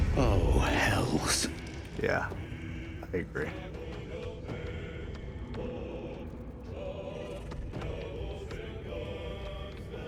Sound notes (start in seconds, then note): none